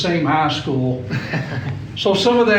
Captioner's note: laughing